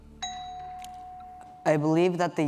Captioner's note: bell dings